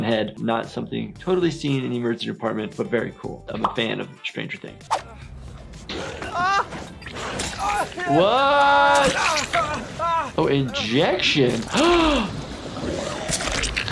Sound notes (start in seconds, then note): 6.0 character screams; 7.0 blade squelches; 8.8 syringe squelches; 11.6 gasps